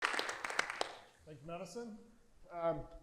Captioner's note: audience applauding